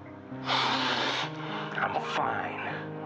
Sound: snorting loudly

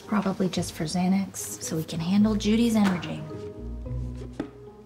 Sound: none

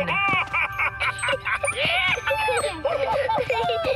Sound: excited laughter

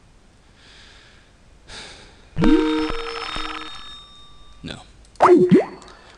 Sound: ringing

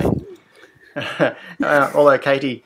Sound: laughs

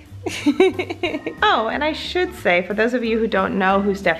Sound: laughs

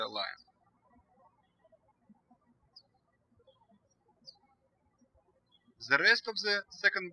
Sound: birds chirping

